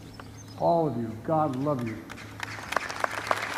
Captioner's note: applause